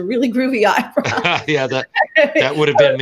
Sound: laughing

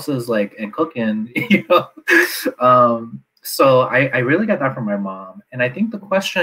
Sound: laughs

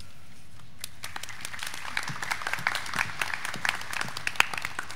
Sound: attendees clapping

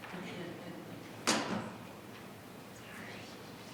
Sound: speaking faintly

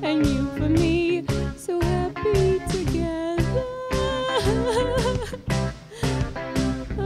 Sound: more sobbing and crying

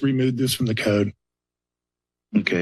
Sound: silence

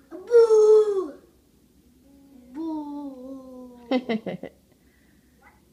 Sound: adult chuckles off-screen

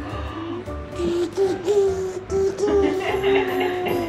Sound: making car sounds; mom laughing

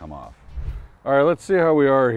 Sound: air whooshing

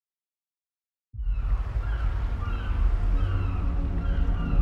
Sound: birds calling

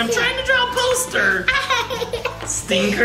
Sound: laughs

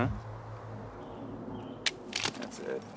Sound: gun clicks

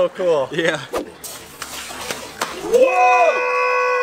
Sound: scrapping and sliding on water

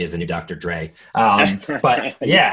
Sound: laughing

